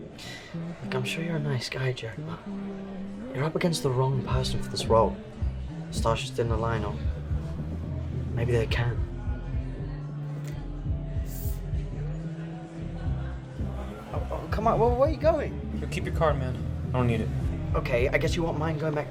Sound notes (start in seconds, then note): 0.3 scoffs; 10.2 crowd chattering; 10.2 soft upbeat music